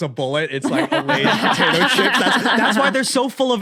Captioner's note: others laughing